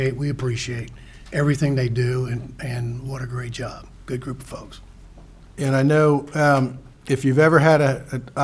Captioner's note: none